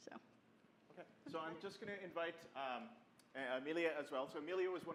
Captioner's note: voiceover